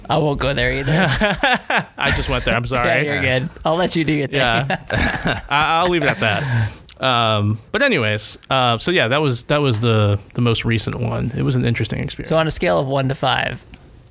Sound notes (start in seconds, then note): 4.4 laughter